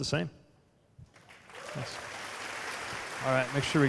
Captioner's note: applause